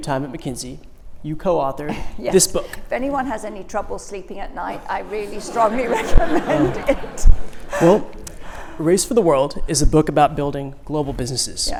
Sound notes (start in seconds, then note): 6.8 laughter